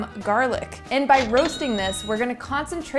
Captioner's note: cash register chimes